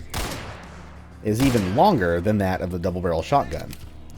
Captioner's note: crack